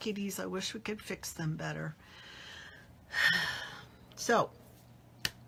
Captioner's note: sighs